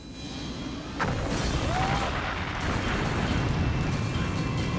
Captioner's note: tense music; fire booming